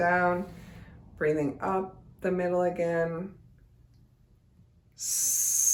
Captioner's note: hisses